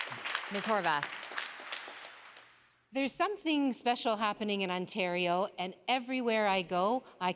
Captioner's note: applause